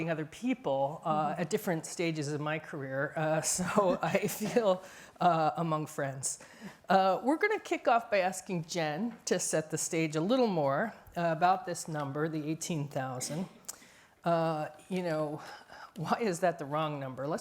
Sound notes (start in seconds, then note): 3.9 laughs